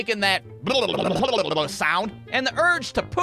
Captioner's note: phblbblphbbllbbll